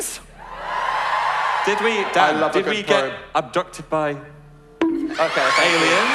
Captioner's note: probe sound effect